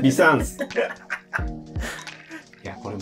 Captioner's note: laughing